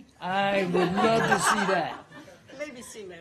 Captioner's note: laughter